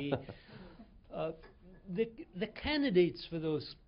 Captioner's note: laughter